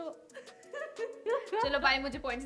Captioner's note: laughing